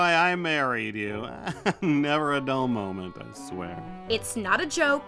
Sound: chuckles

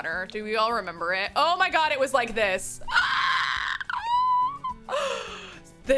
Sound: squeals

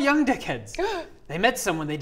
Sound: gasp

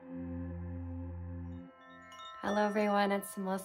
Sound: chimes

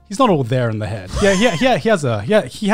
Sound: laughing

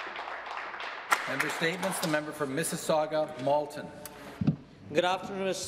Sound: some applause

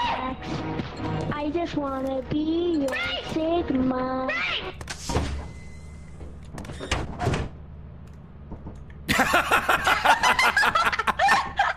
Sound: laughs

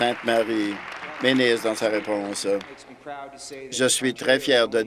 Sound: applause

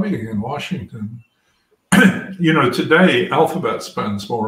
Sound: cough

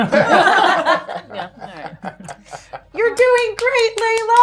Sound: gamers laughing

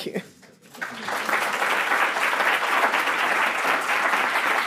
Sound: audience applauds

